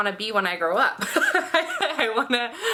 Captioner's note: laughing